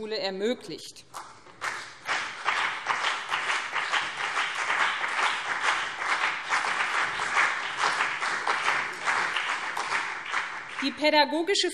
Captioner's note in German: Beifall BÜNDNIS 90/DIE GRÜNEN und CDU